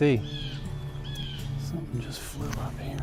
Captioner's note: birds squawking